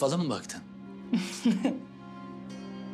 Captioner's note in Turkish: Gülüyor